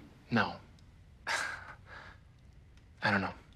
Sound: chuckles

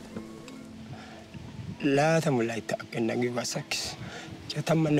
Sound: speaking foreign language

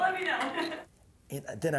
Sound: laughs

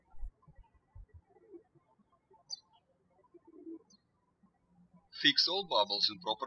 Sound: birds chirping

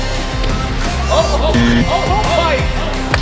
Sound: buzzer

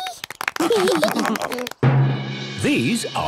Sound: clapping, laughing

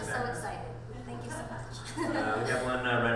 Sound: laughing

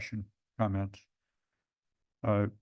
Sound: pause

